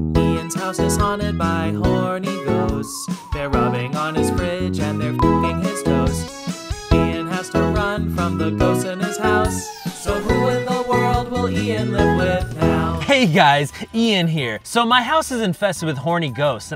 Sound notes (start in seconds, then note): 0.0 bouncy music; 5.2 beep